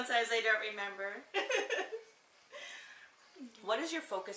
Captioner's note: laughing